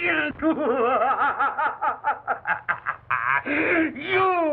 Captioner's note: maniacal Laughter